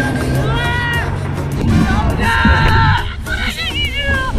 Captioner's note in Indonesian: Kegembiraan meledak